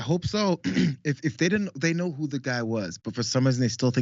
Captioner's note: cough